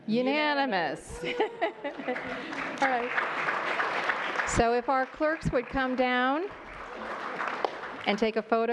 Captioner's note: applause